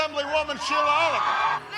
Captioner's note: cheers